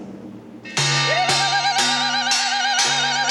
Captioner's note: whooping